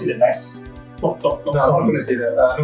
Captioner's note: blop blop blop